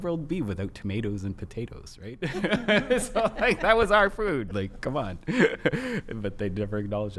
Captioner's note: laughs